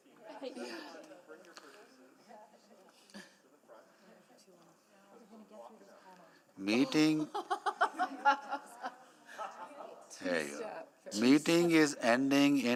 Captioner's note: conversation din